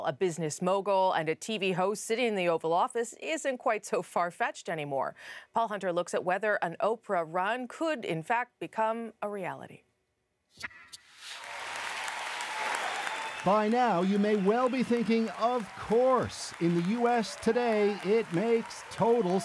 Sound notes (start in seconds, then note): 13.0 applause